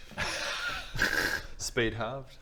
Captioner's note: laughs